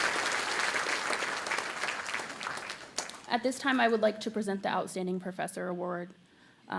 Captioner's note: applause